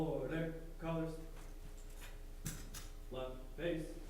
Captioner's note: none